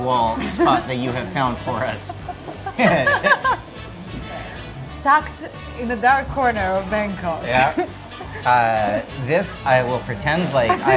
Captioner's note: laughing